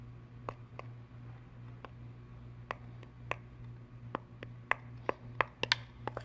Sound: spoon tapping against bowl

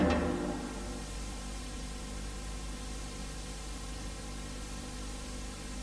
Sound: VHS static

